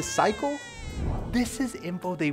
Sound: baby cries

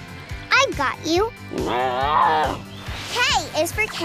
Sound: roaring

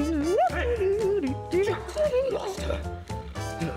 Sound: Red hums

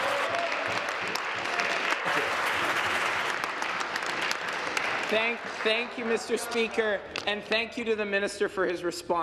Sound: applause

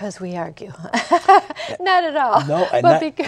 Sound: laughter

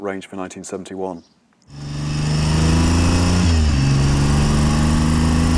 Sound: bike engine revving

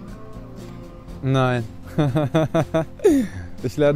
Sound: laughs

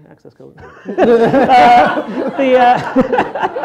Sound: laughter; audience laughter

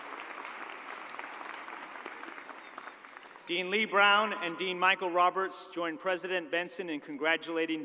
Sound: cheers and applause

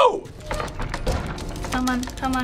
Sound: door creaks

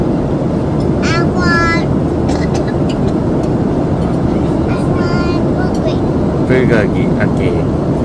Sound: cough cough

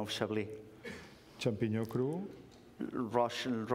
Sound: speaking catalan

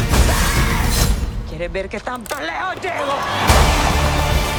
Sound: in Spanish

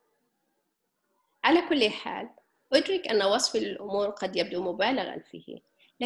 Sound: speaking foreign language

